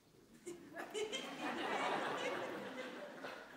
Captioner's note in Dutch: Gelach